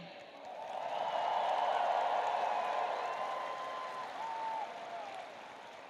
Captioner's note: audience cheering and applauding